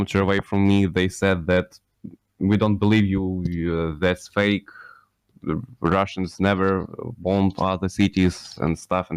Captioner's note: Ukrainian